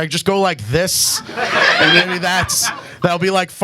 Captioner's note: audience laughs